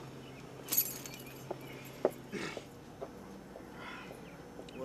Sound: keys rattling

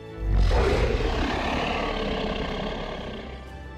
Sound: dinosaur roars

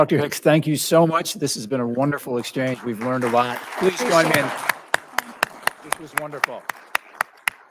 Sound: applause

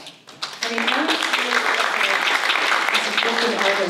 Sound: applause

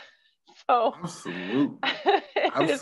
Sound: laughs

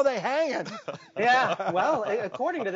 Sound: hosts laugh

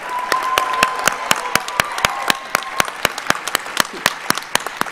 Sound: audience applauds

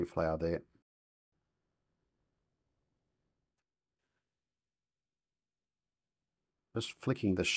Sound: silence

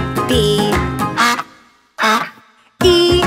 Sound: duck quacks twice

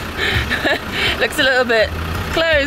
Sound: chuckles

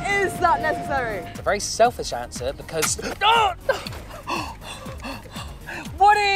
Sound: gasp

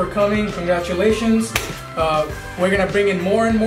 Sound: hands clapping

